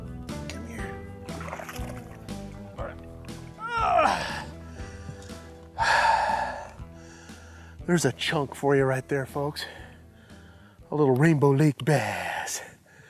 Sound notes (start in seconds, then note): 5.7 exhales